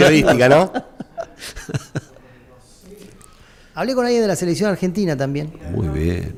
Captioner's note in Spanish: risas